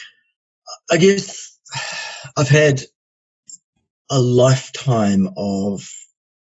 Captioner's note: sighs heavily